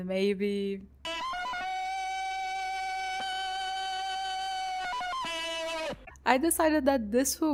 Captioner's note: Tarzan shout